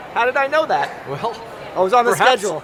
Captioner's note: laughs